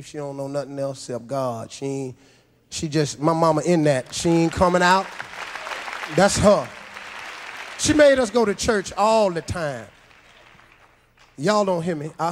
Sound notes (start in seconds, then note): 7.0 audience applauds